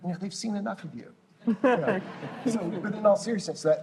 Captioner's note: laughter